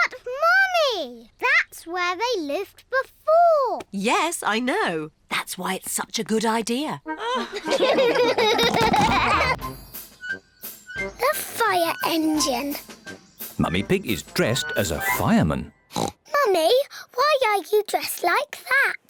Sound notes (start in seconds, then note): 7.2 all laugh; 15.9 oinks